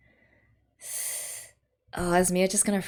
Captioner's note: sharp intake of breath